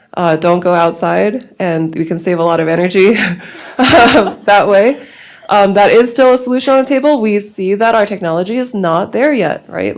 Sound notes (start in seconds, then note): 4.7 laughs